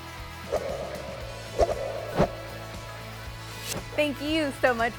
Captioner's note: swiping sound